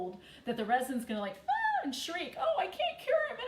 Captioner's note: shrieks